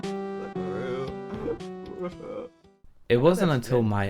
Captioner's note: crying